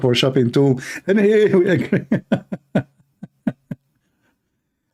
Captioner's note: Ketawa